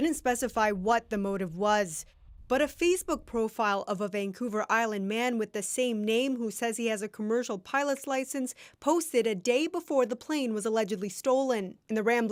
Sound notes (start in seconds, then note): none